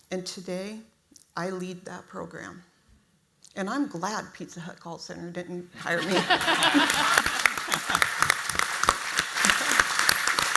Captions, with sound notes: And today I lead that program and I'm glad Pizza Hut Call Center didn't hire me. (audience applauds)